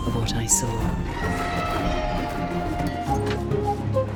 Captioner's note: screeching